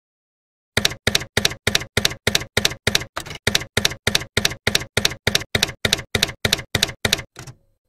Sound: typewriter keys clacking

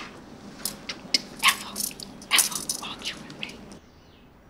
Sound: Miss Bose whispering

